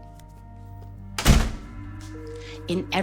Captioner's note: door slamming